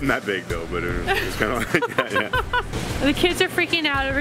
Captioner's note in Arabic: يضحك